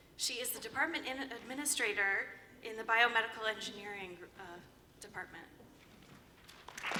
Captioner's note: applause